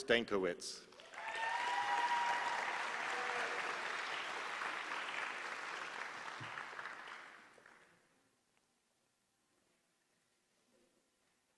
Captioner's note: applause